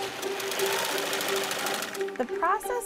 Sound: humming of sewing machine

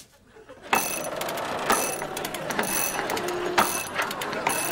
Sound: gears grinding

